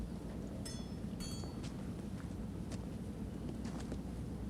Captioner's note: wind chimes clanking